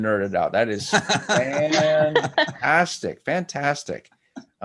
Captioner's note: laughs